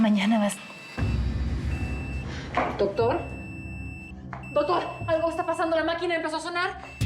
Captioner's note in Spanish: bip acelerado del monitor